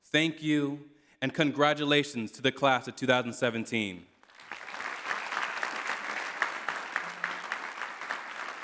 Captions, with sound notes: Thank you. And congratulations to the class of 2017. [CLAPPING]